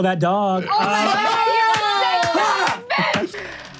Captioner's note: yells of outrage